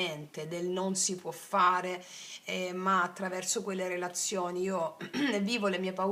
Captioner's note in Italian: schiarire la voce